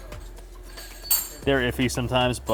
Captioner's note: metal clinking